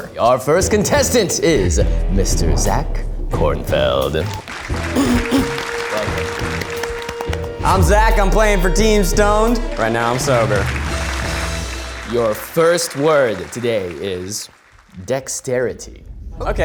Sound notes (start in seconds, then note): 4.1 audience applauding; 10.7 audience applauding; 11.5 bright music